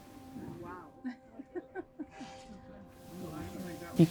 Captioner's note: laughs